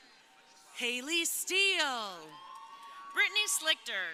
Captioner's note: crowd cheering